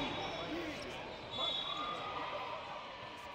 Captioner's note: whistle blares